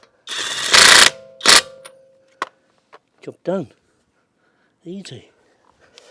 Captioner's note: drill whirring